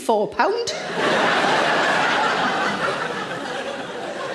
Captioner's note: audience laughs